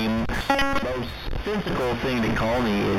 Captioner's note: glitching noise